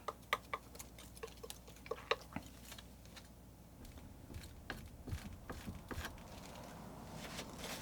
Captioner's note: tapping